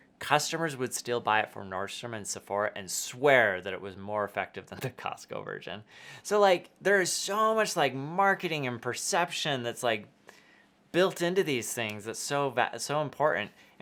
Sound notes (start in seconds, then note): 5.8 laughs